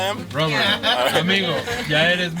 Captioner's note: laughing